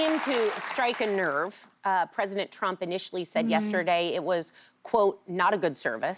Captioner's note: applause